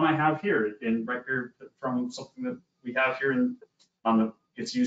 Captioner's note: audio lagging